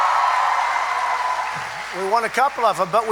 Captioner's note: applause